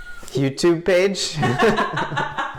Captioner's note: woman laughs; laughter